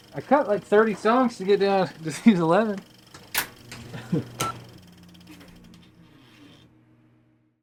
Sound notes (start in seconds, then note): 3.8 laughing